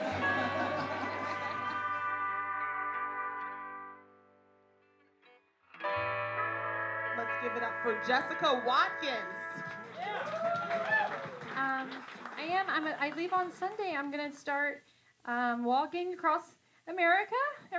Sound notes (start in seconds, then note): 0.0 soft music; 9.8 cheering